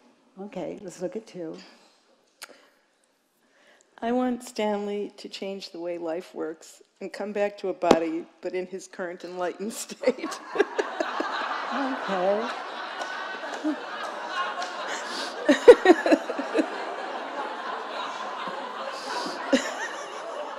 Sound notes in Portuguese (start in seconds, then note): 10.6 risos da plateia; 15.2 a plateia continua a rir